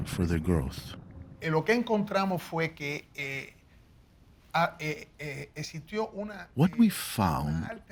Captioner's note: speaking Spanish